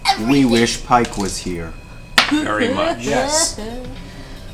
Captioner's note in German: schluchzt